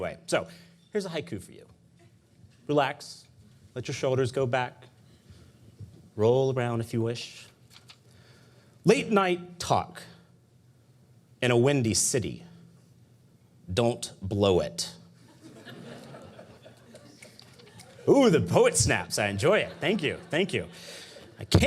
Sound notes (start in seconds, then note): 15.3 audience laughing; 16.8 audience snapping fingers